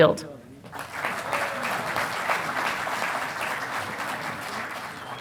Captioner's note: audience applauding